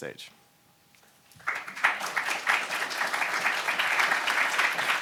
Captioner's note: audience applauds